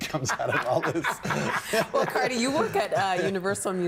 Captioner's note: everyone laughing